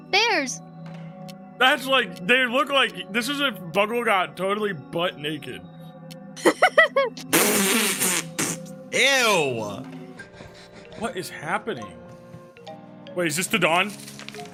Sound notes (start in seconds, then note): 6.4 laughs; 6.4 sputters